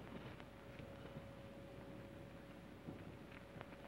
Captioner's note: none